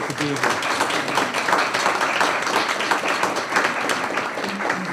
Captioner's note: applause